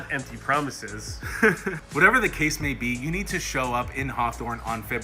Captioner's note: laughs